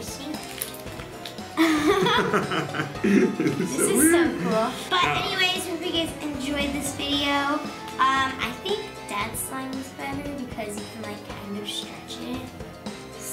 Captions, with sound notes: - I think. (popping) (laughing) - This is so weird. - This is so cool. But anyways, we hope you guys enjoyed this video. I think Dad's slime is better because you can like kind of stretch it.